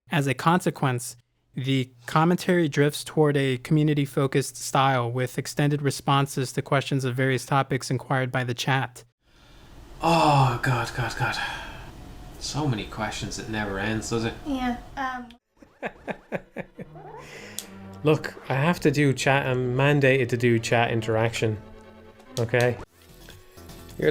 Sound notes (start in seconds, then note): 15.6 laughing